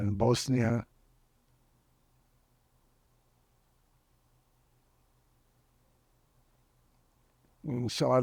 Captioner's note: pauses 6 seconds